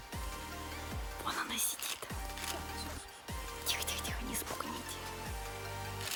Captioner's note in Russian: шепотом